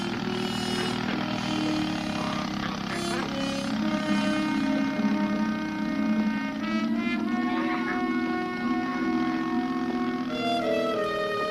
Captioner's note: geese honking